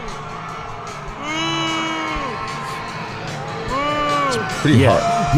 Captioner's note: crowd booing